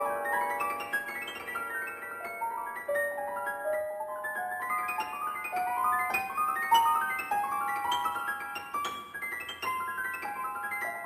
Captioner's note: speaking French